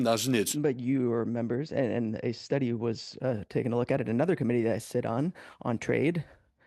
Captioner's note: speaking French